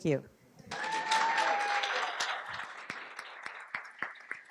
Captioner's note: audience claps